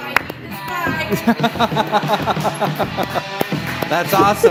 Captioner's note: laughter